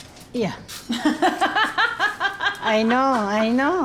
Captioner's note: laughing